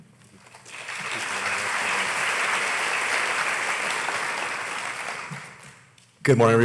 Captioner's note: applause